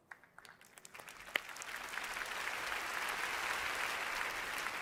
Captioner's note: audience applauding